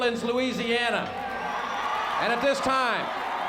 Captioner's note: crowd cheering